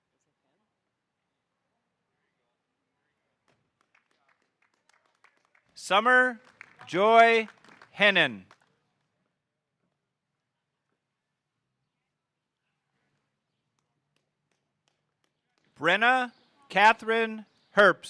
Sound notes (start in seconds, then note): 3.8 audience applauding